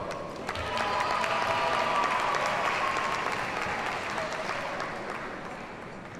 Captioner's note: audience cheers and applauds